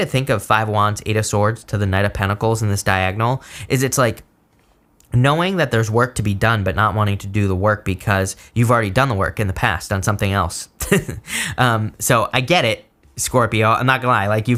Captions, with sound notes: to think of Five of Wands, Eight of Swords to the Knight of Pentacles in this diagonal is it's like knowing that there's work to be done, but not wanting to do the work because you've already done the work in the past, on something else. (chuckles) So I get it, Scorpio. I'm not gonna lie.